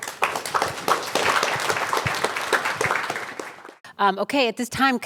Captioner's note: applause